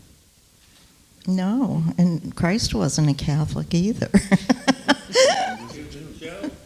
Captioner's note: laughs